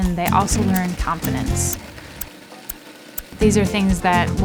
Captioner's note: coffee grinding